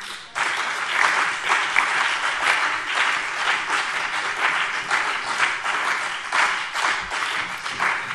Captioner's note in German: Beifall BÜNDNIS 90/DIE GRÜNEN und CDU